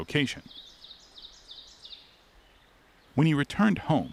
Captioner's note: bird chirps